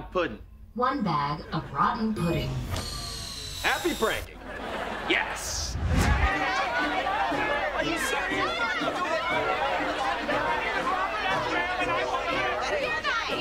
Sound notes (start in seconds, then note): 5.7 chattering; 8.5 screaming